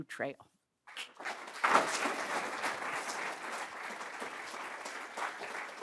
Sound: audience applauding

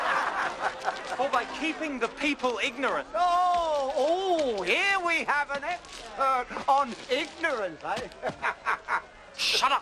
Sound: laughs

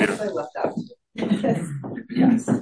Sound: laughter

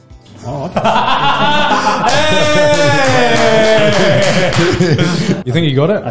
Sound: cheers

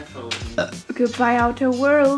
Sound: burp

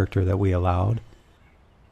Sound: chirp, chirp, chirp

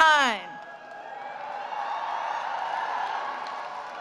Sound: cheering

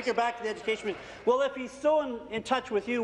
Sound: applause

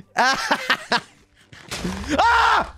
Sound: insane laughing; explosion

